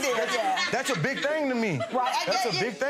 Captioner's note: audience laughing